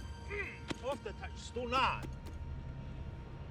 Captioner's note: Italian spoken audio